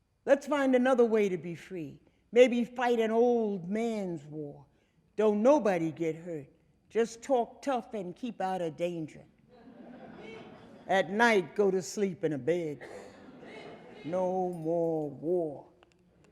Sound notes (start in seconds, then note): 9.5 audience laughing